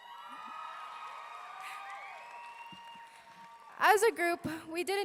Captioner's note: audience clapping and cheering